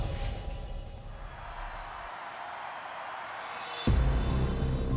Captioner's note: crowd cheering